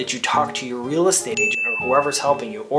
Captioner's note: bell chimes